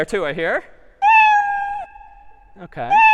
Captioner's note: meow